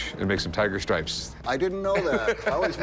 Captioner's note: laughs